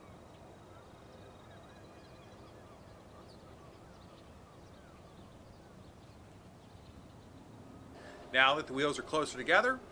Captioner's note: birds chirping